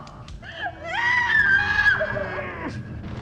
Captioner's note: Liz screaming